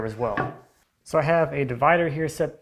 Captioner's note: wood on desk clunking